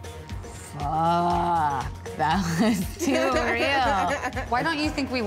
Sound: laughs

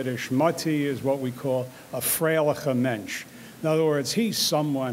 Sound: speaks in foreign language

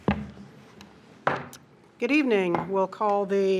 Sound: gavel thumping

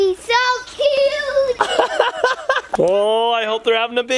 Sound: laughing

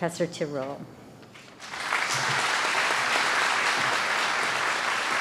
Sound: applause

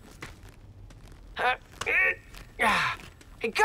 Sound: grunting

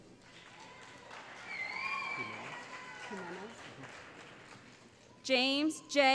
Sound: cheering

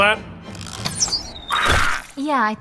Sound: Goblin Dying Noise

